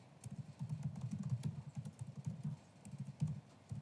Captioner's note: typing sound